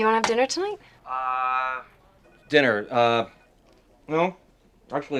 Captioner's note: on phone